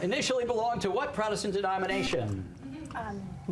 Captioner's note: buzzer